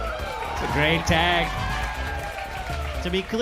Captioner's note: audience laughing